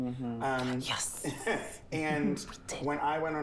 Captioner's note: Peppermint chuckles